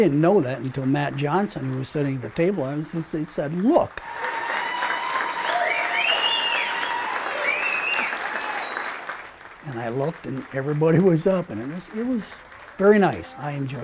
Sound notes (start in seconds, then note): 3.9 audience applauding and cheering